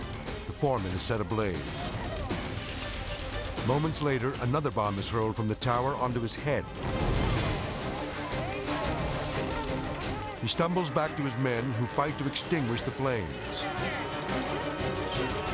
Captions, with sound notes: The foreman is set ablaze. Moments later, another bomb is hurled from the tower onto his head. (flames whooshing) (intense music) He stumbles back to his men, who fight to extinguish the flames.